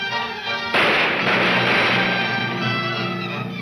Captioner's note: gunshots banging